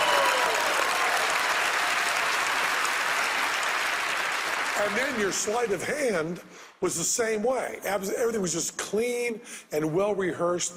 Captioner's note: applause